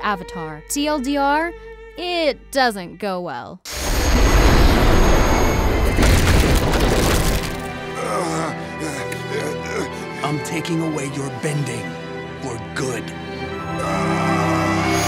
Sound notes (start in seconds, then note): 7.7 groaning; 13.8 screaming